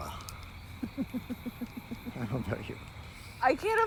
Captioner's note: Laura giggles